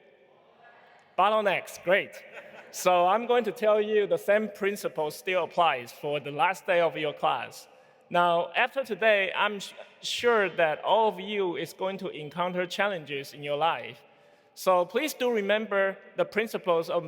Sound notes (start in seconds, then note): 1.0 speaking faintly